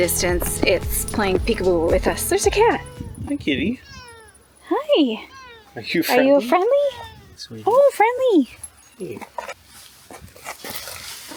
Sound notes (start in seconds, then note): 4.8 meowing sounds